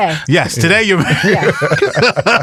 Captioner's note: laughs